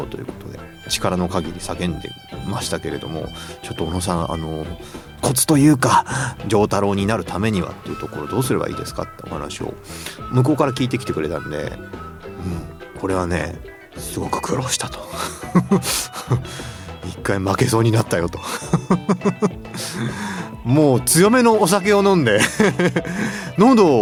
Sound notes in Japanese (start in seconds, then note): 13.8 咳払い; 15.0 笑い; 23.1 笑い